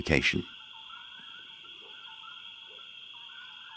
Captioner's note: crickets chirping